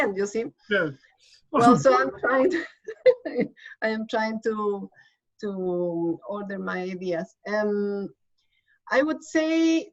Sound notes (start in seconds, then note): 3.2 laughs